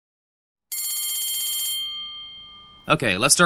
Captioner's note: school bell